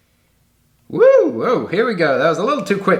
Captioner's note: shouting excitedly